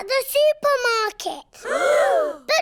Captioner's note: all gasp